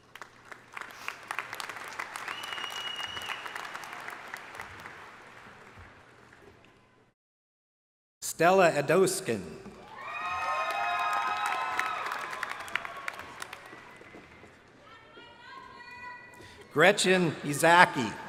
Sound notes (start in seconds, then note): 0.0 crowd applauding; 9.8 crowd cheering